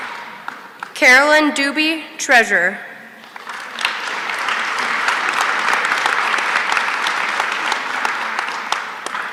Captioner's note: applause